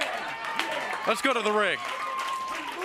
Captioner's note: crowd cheering